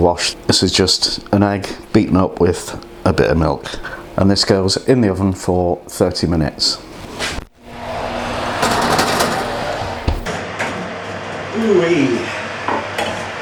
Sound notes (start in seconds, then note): 7.6 oven roar